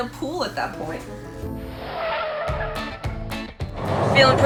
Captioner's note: tires squealing